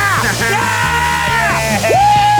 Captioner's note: laughing